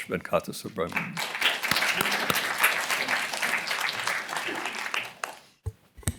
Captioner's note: applause